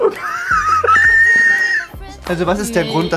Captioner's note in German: quiekt lachend